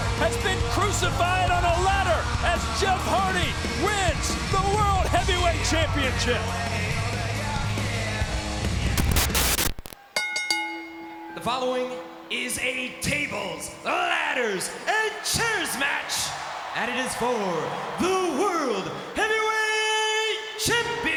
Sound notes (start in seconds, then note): 9.0 screen hisses; 10.1 bell rings; 16.4 audience cheering and clapping